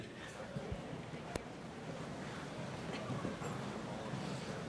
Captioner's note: audience chattering